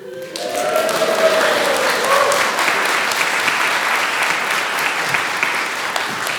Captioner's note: applause